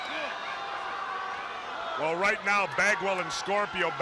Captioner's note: crowd chatter